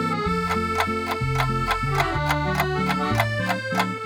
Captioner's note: clock starts ticking